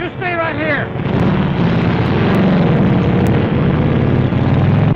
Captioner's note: engines revving